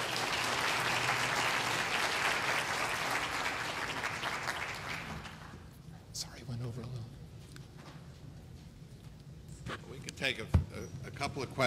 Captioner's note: applause